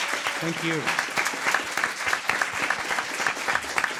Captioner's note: crowd clapping